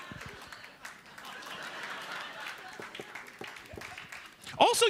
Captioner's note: laughter